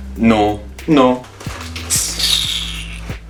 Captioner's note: hisses teeth